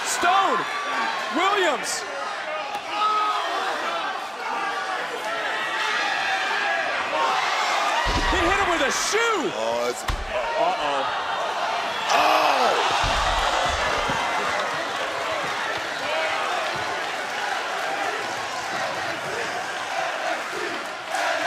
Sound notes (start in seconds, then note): 10.0 crowd chants "nxt"